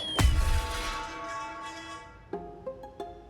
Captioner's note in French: fracas métallique